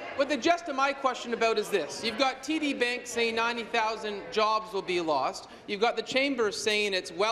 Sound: applause

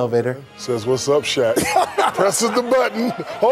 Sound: audience laughing

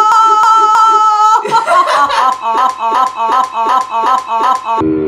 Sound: laughing; evil laugh

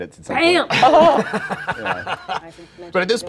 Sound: laughing

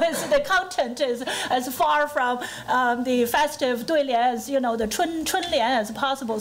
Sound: foreign language; foreign language

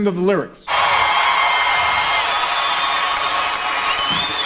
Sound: crowd cheering

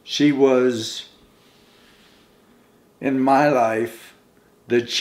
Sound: none

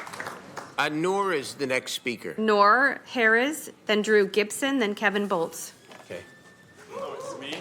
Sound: applauding

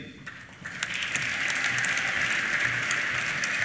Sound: applause

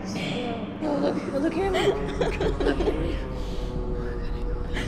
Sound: giggling anxiously

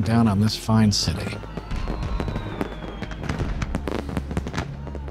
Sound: fireworks

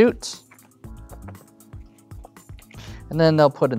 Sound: taps cards on table

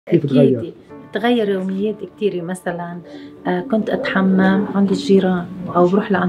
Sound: Arabic language

